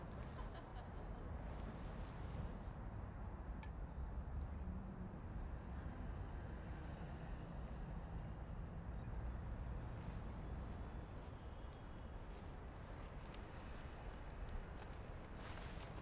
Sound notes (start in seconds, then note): 0.3 distant laughter; 2.8 glasses clinking